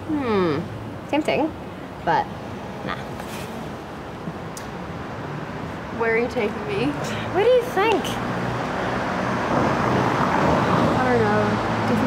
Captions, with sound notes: - Hmm. Tempting but nah. - Where are you taking me? - Where do you think? (cars passing) - I don't know.